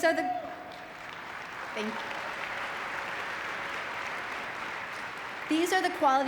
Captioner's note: audience clapping